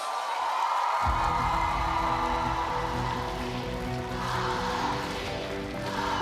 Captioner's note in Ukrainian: оплески